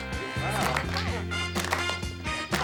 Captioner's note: laughs; students clap rhythmically; upbeat 60s pop music